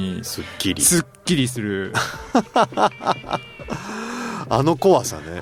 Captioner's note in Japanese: 笑い